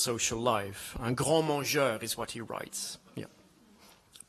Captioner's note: French language